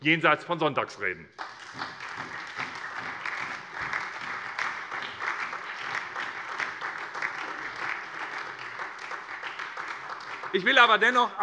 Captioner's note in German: Beifall SPD und vereinzelt DIE LINKE